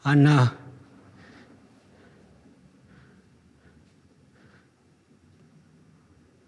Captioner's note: heavy breathing